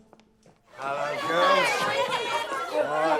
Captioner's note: girls clamoring